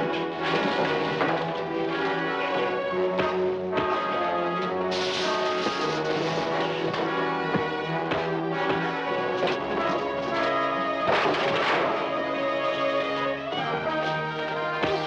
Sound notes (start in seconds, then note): 0.0 gun rattles; 2.3 dramatic music; 3.1 punches thudding; 10.9 chair clatters; 14.8 punches thudding